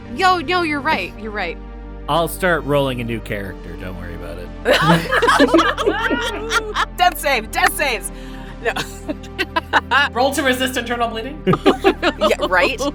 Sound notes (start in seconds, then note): 4.7 EVERYONE laughs; 11.4 EVERYONE laughs